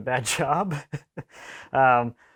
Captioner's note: man giggles